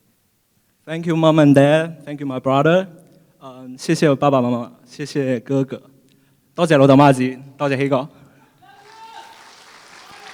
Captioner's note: foreign Language